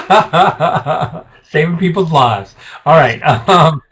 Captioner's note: laughs